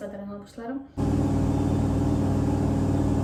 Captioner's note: washing machine